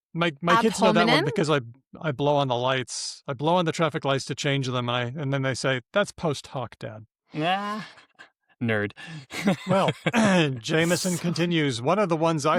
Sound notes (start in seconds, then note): 9.0 laughs